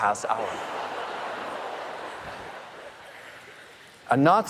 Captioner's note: audience laughing